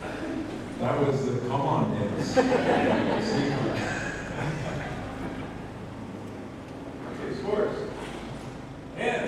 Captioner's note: laughter